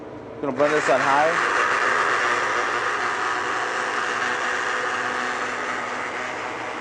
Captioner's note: mechanical grinding